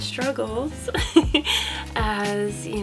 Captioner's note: laughs